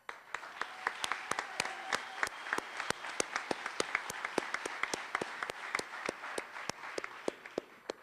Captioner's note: applause